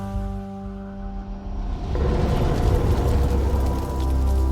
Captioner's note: crackling of flames